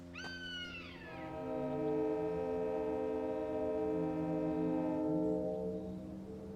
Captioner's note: bird calling; train whistle blaring